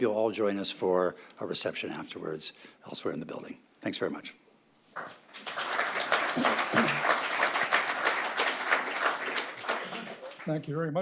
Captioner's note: applause